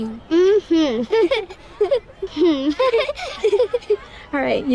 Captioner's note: twins laughing